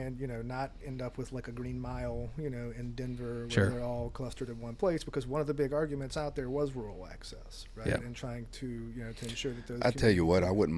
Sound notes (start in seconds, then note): none